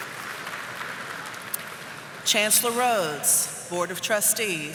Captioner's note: audience applauding